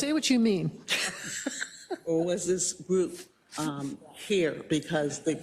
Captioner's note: laugh